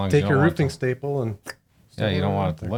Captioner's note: person clicks tongue